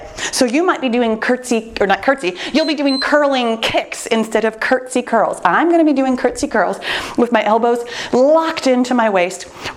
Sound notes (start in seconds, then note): 2.5 timer beeps